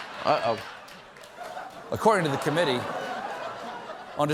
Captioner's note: laughter